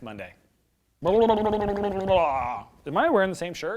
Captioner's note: mouth noises